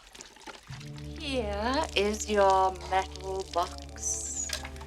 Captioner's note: water splashing